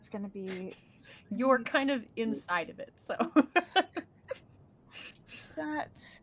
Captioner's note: laughing